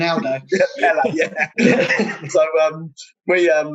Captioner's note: laughing